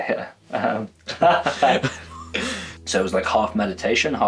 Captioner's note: laughs